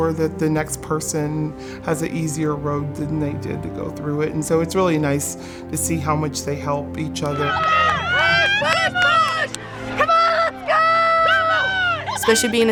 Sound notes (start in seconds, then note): 7.7 yelling